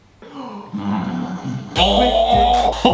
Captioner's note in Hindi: कराहना